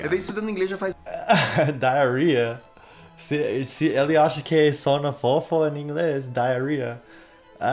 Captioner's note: laughs